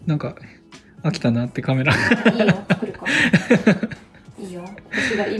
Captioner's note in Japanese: 笑い